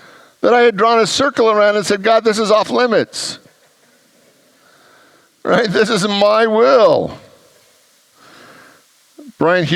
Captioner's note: congregants laugh